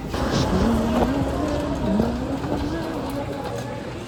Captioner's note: random humming